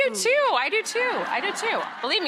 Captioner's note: audience laughing